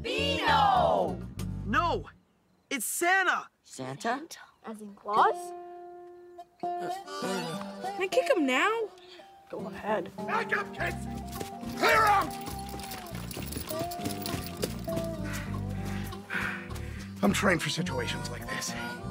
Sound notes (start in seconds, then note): 5.7 groans; 14.9 panting